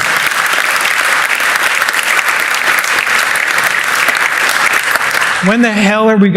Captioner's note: applause